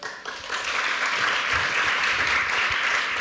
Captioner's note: applause